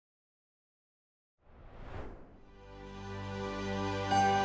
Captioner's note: air whooshes; chiming music